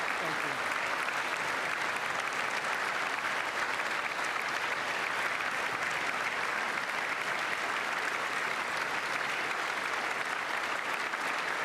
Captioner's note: applause